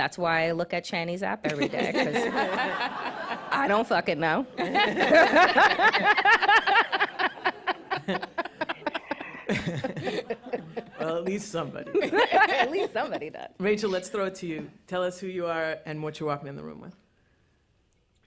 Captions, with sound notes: That's why I look at Chani's app every day because [laughter] I don't fucking know. [laughter] -Well, at least somebody. -At least somebody does. Rachel, let's throw it to you. Tell us who you are and what you're walking in the room with.